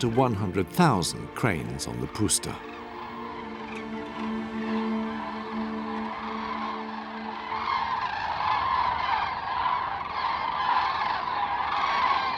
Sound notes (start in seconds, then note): 4.5 cranes cawing